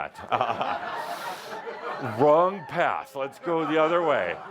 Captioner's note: laughter